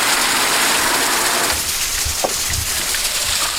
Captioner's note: water spraying